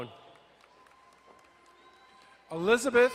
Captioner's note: crowd cheering and applauding